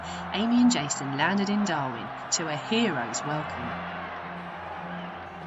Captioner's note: crowd cheering